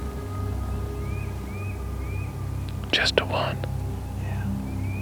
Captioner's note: whispering